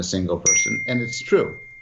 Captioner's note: bell chimes